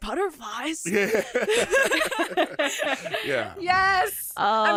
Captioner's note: all laugh